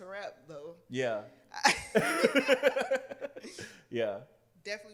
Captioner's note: laughter